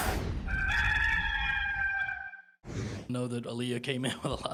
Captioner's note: rooster crowing